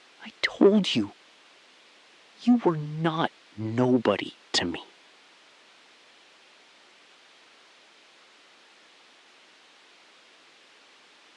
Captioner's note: SILENCE — 6 sec